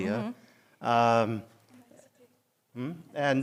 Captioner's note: french